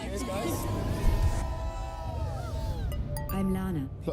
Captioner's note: crowd cheers